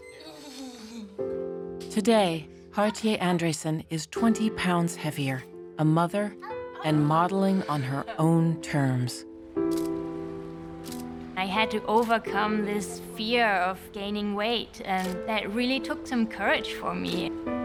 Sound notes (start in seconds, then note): 0.1 laughs; 9.7 camera shutter clicking